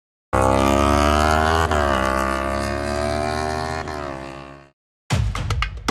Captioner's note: motorbike engine sound; upbeat Arabic music